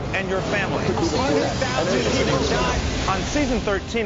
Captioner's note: chaotic random voices shouting